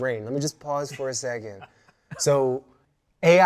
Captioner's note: laughing